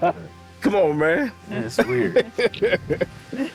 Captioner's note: laughs